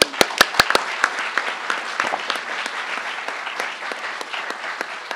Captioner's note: crowd applauding